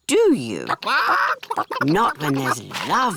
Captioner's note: chickens chatter